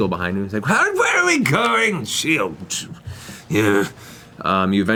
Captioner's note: grumbling